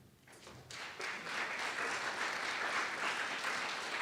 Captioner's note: audience applauds